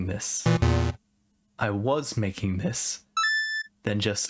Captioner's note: pleasant confirmation sound